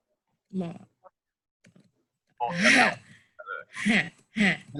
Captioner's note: laughs sarcastically